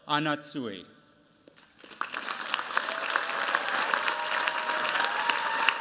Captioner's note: cheers, applause